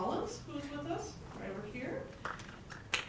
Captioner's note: applause